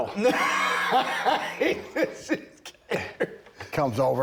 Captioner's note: Bron laughing